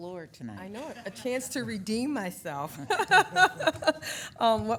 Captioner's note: laughing